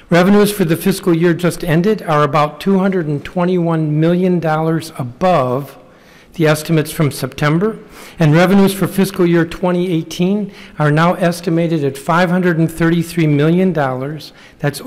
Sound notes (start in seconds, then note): none